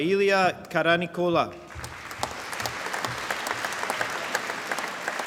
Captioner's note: applause